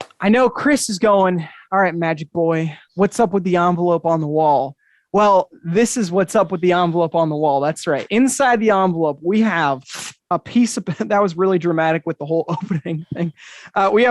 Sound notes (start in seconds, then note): 9.7 paper ripping